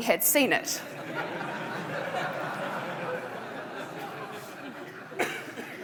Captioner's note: audience laughing